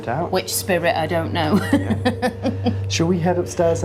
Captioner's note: laughing